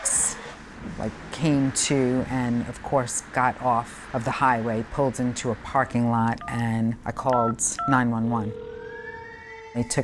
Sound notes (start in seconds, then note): 0.2 tires screeching; 7.3 phone beeping; 7.3 phone ringing; 8.4 siren wailing